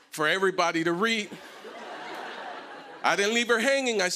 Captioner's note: laughter